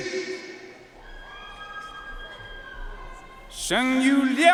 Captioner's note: audience cheering and applauding